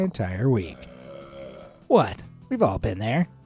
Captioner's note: cartoon burps